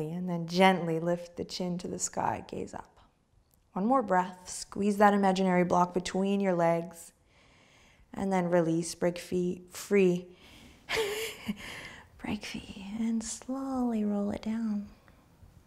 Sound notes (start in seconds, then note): 11.4 laughs